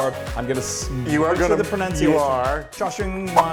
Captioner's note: men chattering